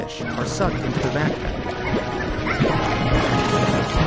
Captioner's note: creatures squealing